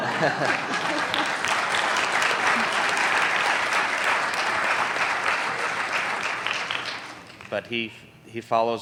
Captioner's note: applauding